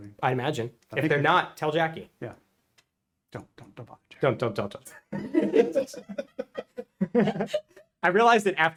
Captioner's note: laughter offscreen